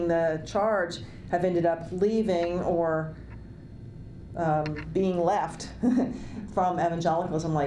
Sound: laughs

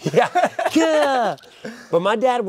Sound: laughing loudly

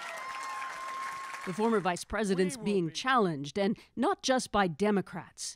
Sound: applause

